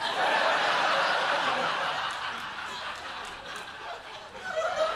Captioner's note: laughter